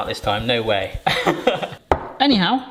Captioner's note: laughing